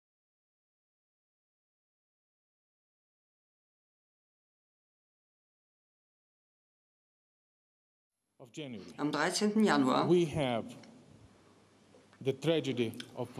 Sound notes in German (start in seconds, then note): 9.5 spricht Russisch